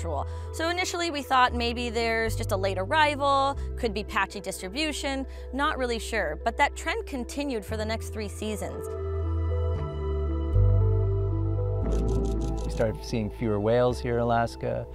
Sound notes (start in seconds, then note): 11.9 camera shutter clicking